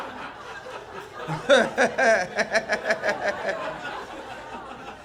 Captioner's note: laughter